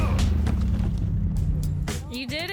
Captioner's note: men grunting